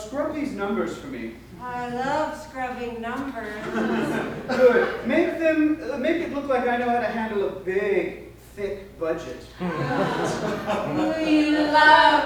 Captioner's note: laughter